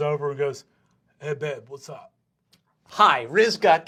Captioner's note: dopey voice